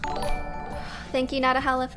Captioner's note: notification tingling